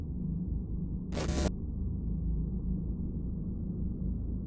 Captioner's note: static